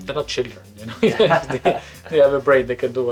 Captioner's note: laughs